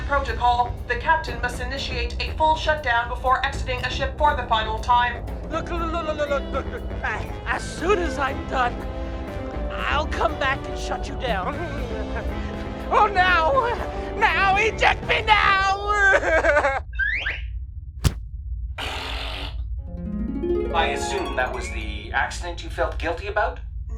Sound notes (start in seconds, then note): 0.0 zany music playing; 16.4 flying whistle; 18.0 thump; 18.8 fart; 20.1 reverse memory music